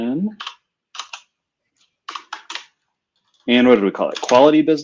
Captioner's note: typing